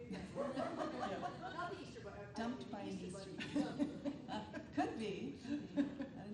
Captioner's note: attendees laughing